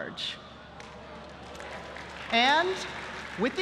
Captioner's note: applause